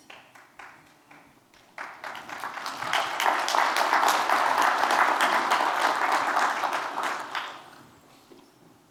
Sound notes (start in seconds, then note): 1.6 audience applauding